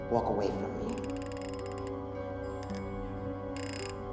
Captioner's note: safe dial clicking; tense music